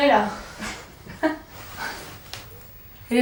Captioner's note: laughs